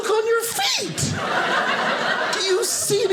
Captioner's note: audience laughing